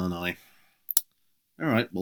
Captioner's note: clicks tongue